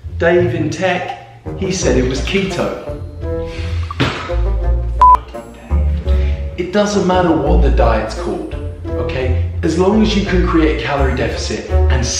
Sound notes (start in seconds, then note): 3.9 hand slapping; 5.0 beep